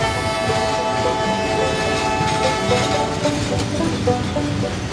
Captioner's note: train horn